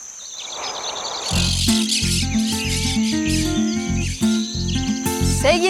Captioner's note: birds